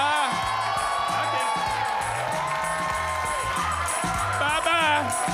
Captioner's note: audience cheering; upbeat music